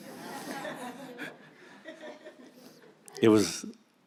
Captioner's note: audience laughs; laughs